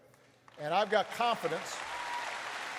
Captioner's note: applause